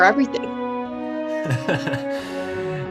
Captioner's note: they laugh. this is apparently funny